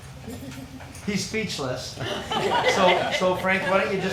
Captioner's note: people laughing